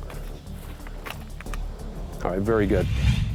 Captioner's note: clicking; whoosh